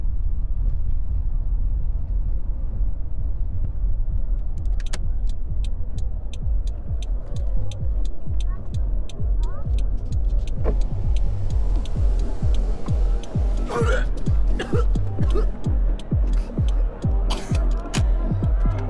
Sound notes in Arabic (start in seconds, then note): 13.6 راشيل تتقيأ